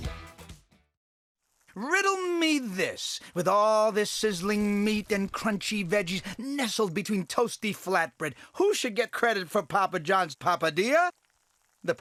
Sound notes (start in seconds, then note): 1.9 voiceover